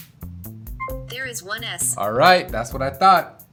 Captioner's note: voiceover